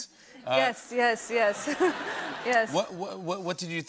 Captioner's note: laughter